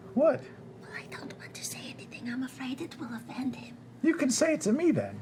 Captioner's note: whispering